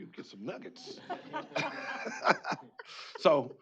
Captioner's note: laughter